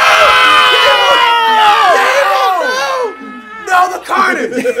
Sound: laugh

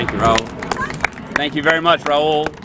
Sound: applause

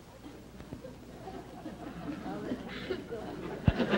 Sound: audience laughter

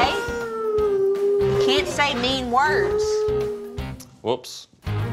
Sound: crying

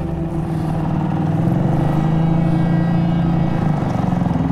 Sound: boat motor hums

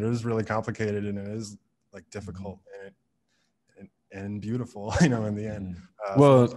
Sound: laughs

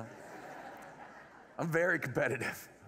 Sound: laughter

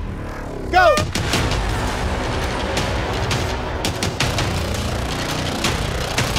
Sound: horn blowing

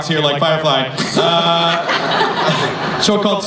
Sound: laughter

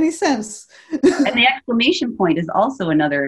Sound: chuckles

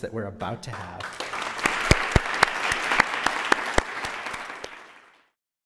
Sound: applause

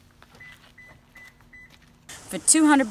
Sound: car beeps

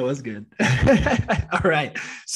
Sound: chuckling

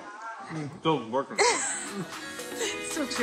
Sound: giggling; upbeat music playing

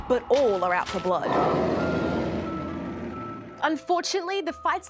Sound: roaring

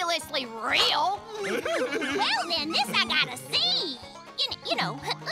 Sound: giggling

